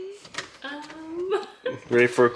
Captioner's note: laughs